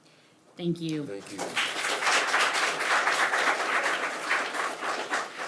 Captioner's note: audience applauding